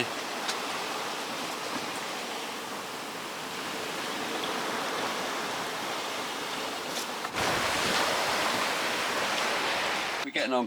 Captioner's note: sea Noise